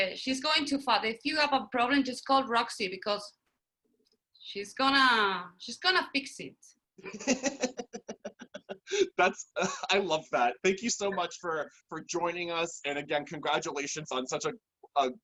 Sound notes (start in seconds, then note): 7.0 laughter